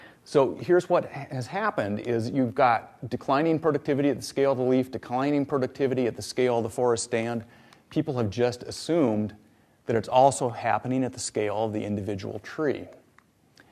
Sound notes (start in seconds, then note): none